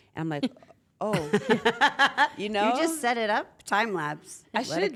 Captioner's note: laugh